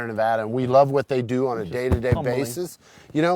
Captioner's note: thumping chest